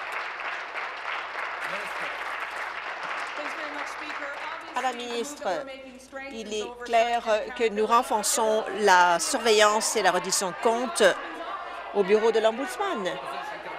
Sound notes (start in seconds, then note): 3.3 applause